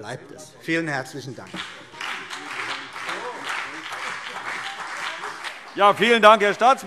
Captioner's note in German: Beifall CDU und BÜNDNIS 90/DIE GRÜNEN